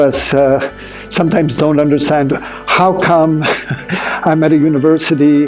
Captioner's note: chuckling